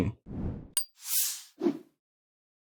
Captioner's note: swish; woosh